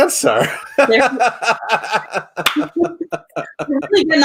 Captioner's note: everyone laughs